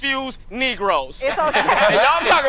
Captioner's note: all laughing